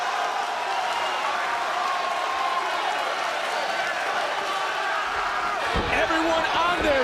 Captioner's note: crowd cheers